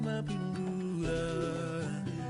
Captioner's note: phone dings